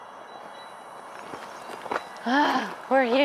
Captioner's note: rocks crunching